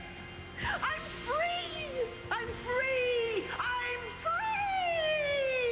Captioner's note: normal voice